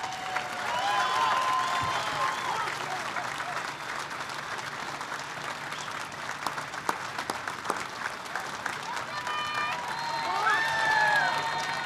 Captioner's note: applause